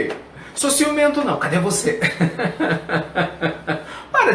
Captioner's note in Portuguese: risos